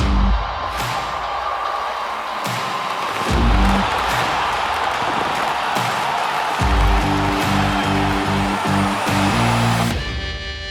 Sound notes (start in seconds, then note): 1.5 crowd cheering